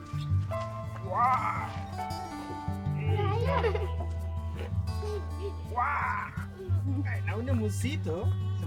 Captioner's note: children giggling